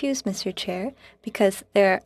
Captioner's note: speaking French